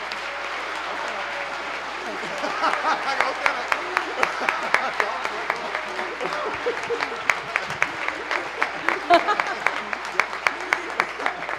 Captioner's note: cheers and applause